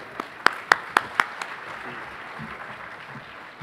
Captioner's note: applause